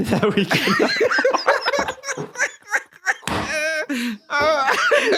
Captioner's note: laughing